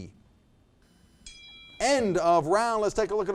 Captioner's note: bell ringing